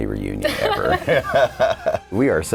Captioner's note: laughing